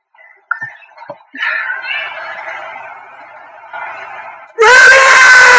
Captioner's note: drunken sigh